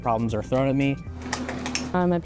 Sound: clicking

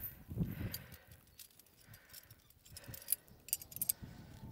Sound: gear crackle

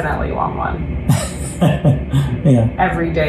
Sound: chuckles

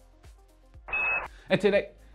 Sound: futuristic tone beeps; speaking gibberish

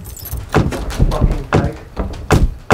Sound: pounding on door

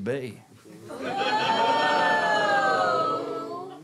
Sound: audience oohs

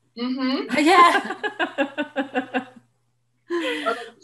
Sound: laughs

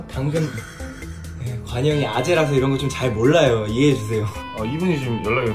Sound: sigh

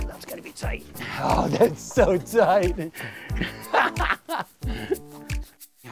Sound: laughs

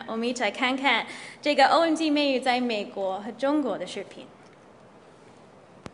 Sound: girls speaking in Mandarin

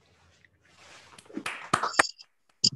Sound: applause

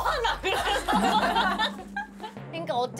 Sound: laughing

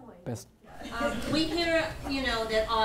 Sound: laughing

